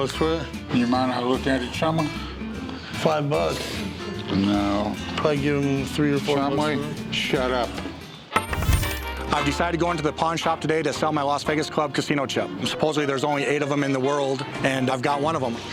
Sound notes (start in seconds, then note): 8.3 coin clinking